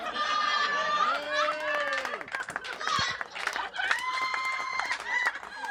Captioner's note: laughter